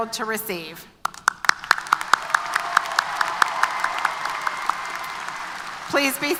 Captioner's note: applause & Cheers